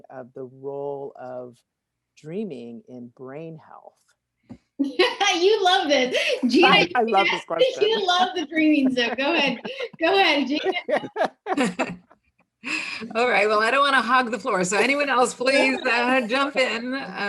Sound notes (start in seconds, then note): 4.4 laughing; 11.2 all laughing